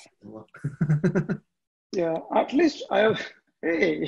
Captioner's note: laughs